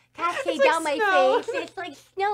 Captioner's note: laughing